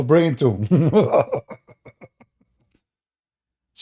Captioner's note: Ketawa